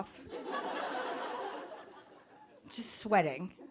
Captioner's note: audience laughing